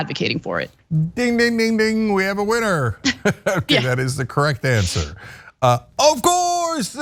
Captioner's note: laugh